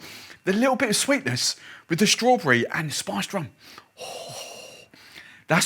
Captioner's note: exhales loudly